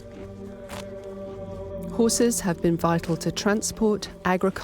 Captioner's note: voiceover